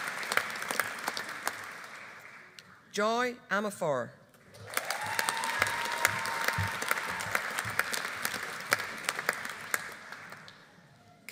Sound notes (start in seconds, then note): 4.5 audience applauding; 4.6 audience cheering